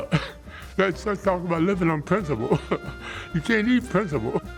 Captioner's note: laughs